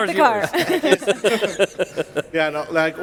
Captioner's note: laughing